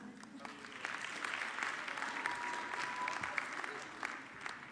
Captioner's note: audience clapping